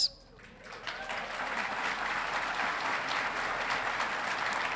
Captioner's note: audience clapping